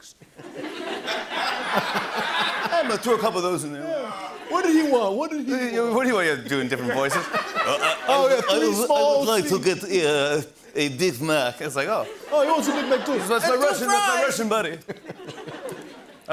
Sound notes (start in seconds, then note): 0.2 laughter; 6.5 laughter; 9.4 russia accent